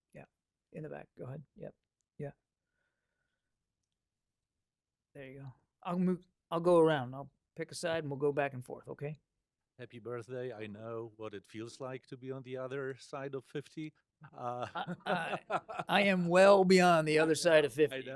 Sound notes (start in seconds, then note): 14.2 laughter